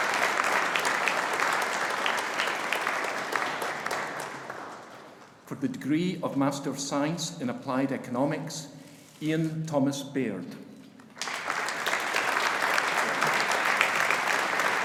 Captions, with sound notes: For the degree of Master of Science in Applied Economics. Ian Thomas Baird. (AUDIENCE APPLAUDING)